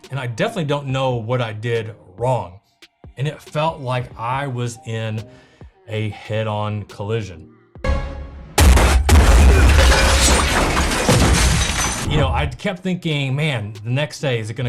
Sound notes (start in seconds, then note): 8.5 cars crashing